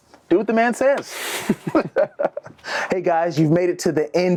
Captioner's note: laughing